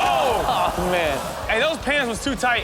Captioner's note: audience groans